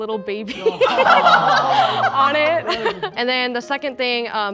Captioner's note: group laughing and awing